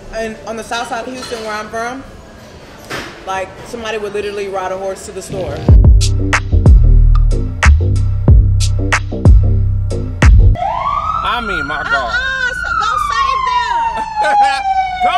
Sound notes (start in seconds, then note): 5.3 upbeat rhythmic music; 10.5 firetruck siren